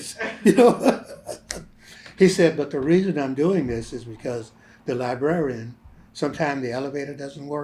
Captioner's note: laughter